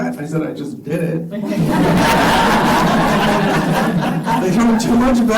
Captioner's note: laughter